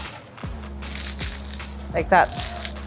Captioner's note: baguette crust crunches